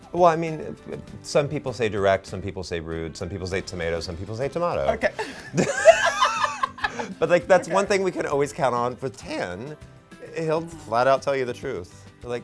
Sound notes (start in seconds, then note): 5.1 laughs